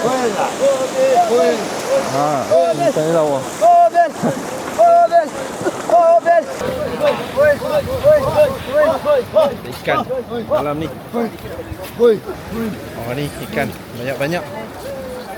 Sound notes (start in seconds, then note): 1.9 speaking Tamil